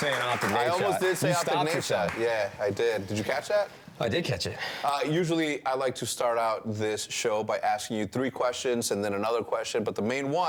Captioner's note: appuse